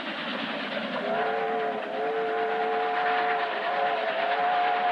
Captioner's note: whistle Blowing